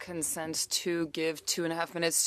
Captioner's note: speaking French